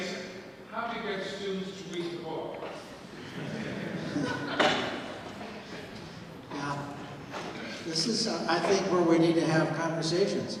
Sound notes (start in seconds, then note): 3.1 audience laughs